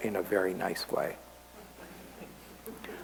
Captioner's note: laughter